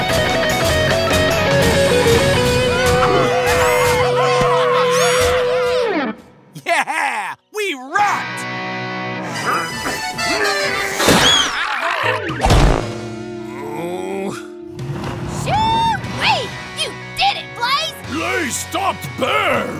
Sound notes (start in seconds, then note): 0.0 guitar riffing; 9.2 grunting; 11.1 screaming; 13.3 groaning